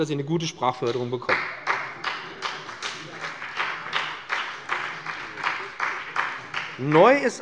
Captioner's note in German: Beifall bei dem BÜNDNIS 90/DIE GRÜNEN und der CDU